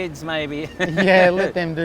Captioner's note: laughs